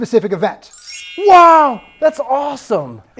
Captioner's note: dry erase board twinkling